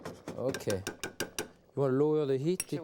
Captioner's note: spoon tapping